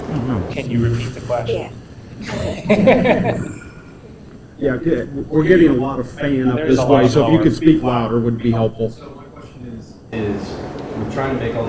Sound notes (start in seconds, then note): 2.2 laughter